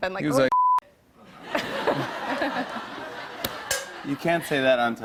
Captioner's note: laughter